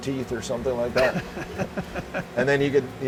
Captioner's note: laughing